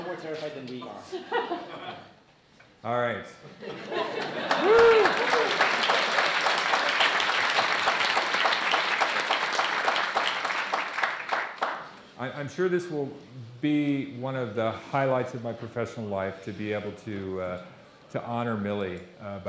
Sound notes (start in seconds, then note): 3.5 audience laughing; 6.5 audience applauding